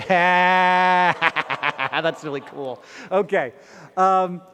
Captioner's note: laughs